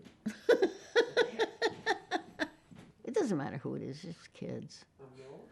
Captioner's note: laughing